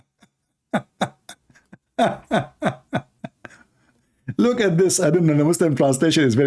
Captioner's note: Ketawa